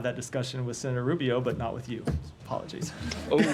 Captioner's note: laughter